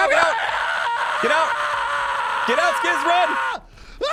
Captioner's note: panic scream